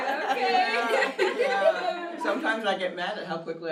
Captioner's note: everyone laughs